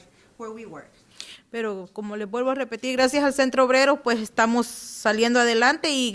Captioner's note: speaking Spanish